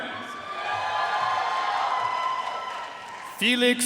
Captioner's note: audience cheering and applauding